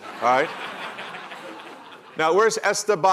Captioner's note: laughter